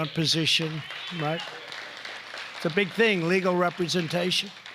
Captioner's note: applause